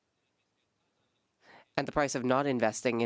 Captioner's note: speaking French